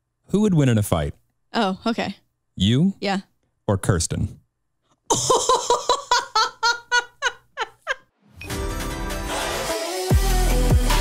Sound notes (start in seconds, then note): 5.1 laughs; 8.4 bright music